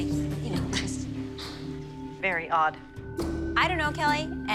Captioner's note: scoffs